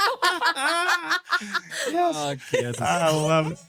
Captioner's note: laughing